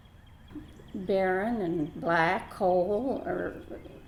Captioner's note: voiceover